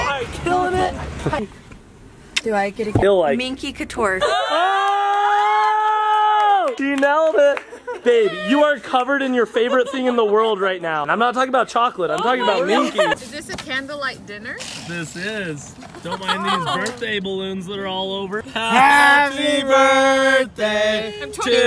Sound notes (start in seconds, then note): 4.3 cheering and yelling